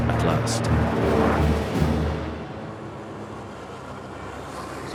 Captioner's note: plane engine roaring